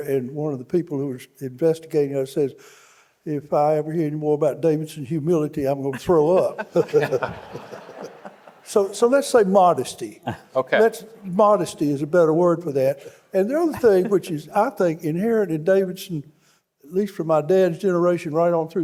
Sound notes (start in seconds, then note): 5.9 panelists laughing; 5.9 audience laughing